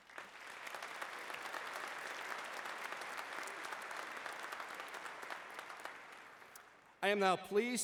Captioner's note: applause